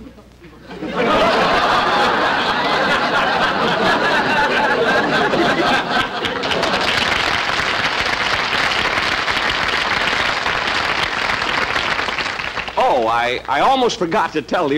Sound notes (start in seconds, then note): 0.6 audience Laughing; 6.4 audience Applauding